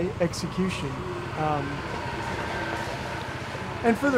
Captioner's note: golf cart engine whining